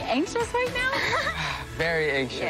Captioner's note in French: laughs